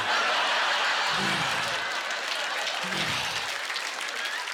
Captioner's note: audience laughter; scattered applause